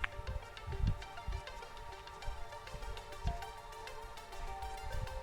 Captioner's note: walking